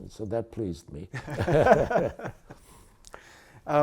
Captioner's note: laughter